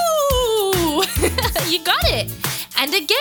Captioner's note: laughs